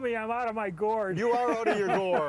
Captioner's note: all laughing